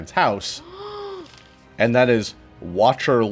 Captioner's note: Omelette gasps